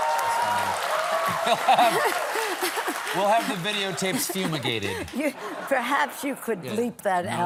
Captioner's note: applause